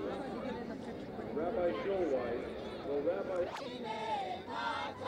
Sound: voice over loudspeaker; ambient noise and singing

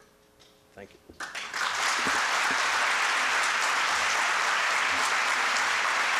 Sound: applause

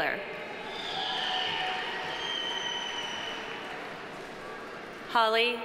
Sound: audience cheering; audience applauding

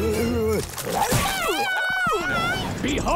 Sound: screaming

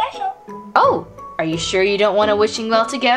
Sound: voiceover

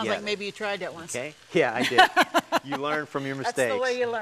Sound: laughs

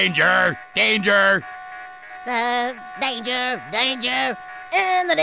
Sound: robotically

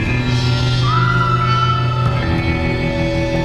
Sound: Hanna screams

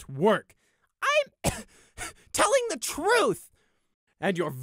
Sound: cough

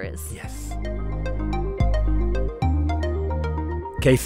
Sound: voiceover

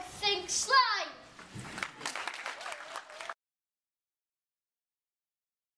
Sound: applause

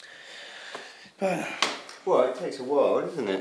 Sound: big sigh

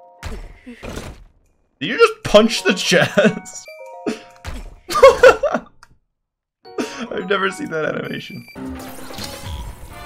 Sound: laugh

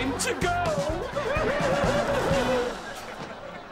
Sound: laughing

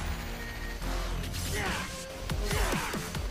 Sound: effort grunts

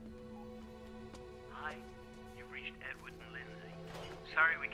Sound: on phone

